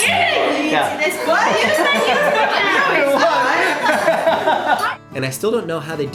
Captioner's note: laughter